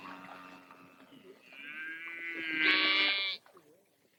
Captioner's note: cow moos